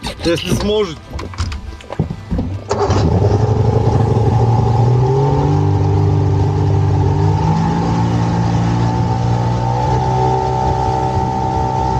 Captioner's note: engine sounds